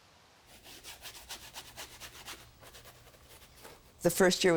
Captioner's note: scraping